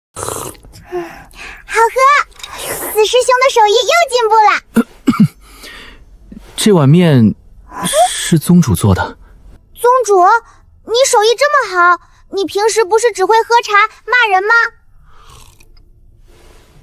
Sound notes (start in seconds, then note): 4.7 cough, cough